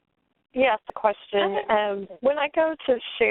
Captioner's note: voiceover